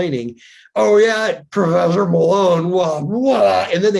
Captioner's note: speaks gibberish